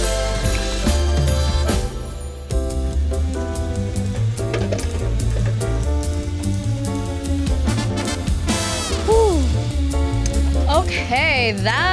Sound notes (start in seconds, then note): 0.9 joyful music; 4.9 tools clanging; 6.1 joyful music; 9.4 sighs